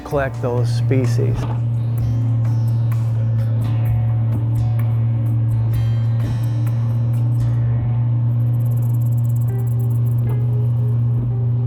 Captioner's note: boat Motor